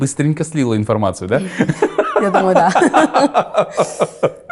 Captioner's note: laughs